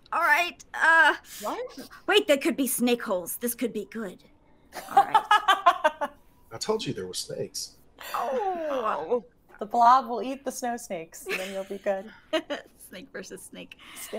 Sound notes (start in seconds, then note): 5.6 game Master laughs